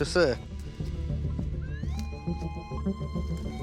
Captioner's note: beeping